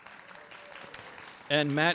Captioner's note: applause